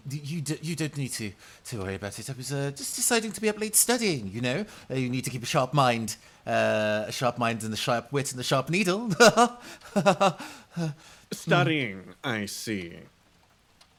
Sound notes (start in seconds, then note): 9.0 laughs; 9.0 awkward laugh